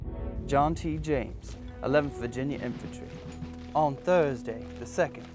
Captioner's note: voiceover